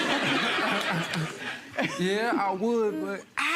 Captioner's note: audience laughter